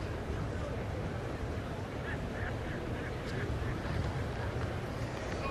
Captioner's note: laughter